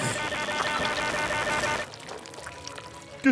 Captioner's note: squelching